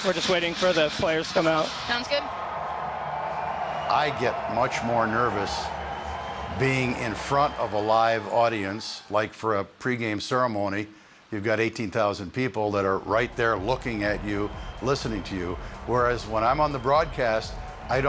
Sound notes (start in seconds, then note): 2.8 fans cheering